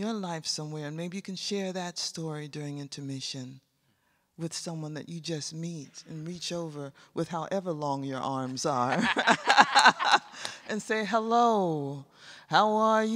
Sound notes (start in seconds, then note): 8.6 laughs; 11.8 sings